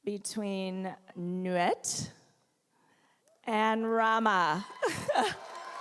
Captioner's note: applause